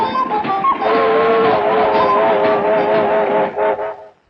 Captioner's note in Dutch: trein fluit